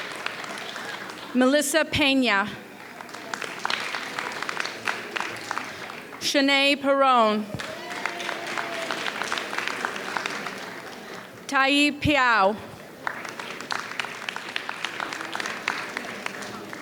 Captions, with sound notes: Melissa Pena. (audience applauds) Shanay Perrone. (audience cheers) Taiee Peow. (audience applauds)